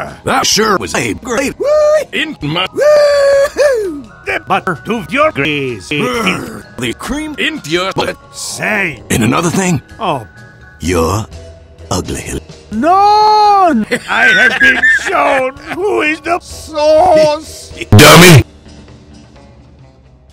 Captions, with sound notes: that sure was a great WOOWEE in my WOOHOO the butter to your greasy filth ;D grr the cream in your BUTT sey and another thing oh? your uglil NoOoN (laughs) i have been shown who is the SAUCE (giggles) DUMBY